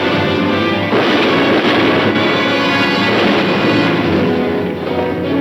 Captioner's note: guns firing; dynamic music